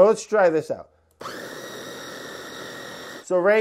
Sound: food processor whirring

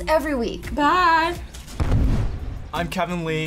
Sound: explosion echoes

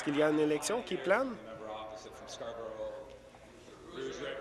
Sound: applause

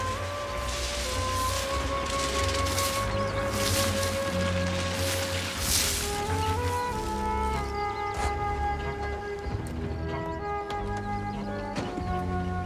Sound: gulls squawking

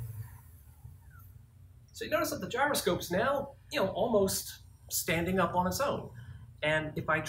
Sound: machine stops

